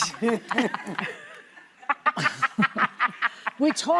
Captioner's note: laughter